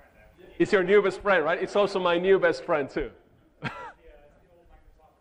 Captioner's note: chuckles; speaks off microphone